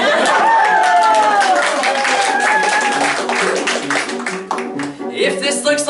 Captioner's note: cheering, applause